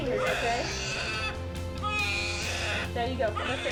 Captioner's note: baby crying